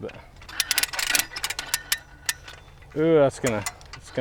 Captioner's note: metals clunking